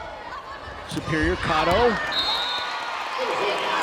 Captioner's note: whistle blows